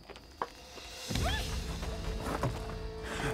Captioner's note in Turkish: Çığlık sesi